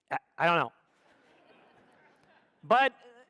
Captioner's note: audience laughs